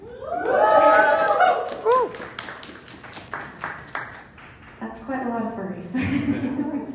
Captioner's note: applause